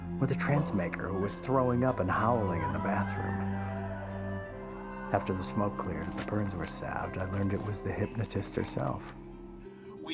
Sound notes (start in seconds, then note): 4.0 Asenath crying